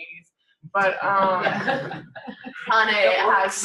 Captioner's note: laughter